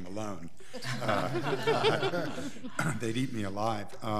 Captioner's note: all laughing